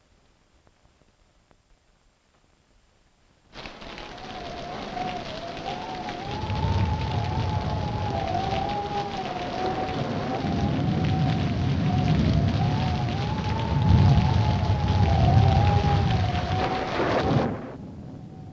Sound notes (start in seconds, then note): 3.2 rain pattering; 3.2 wind howling; 6.1 thunder rumbling; 6.1 wind howling